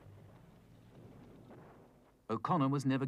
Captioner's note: ground exploding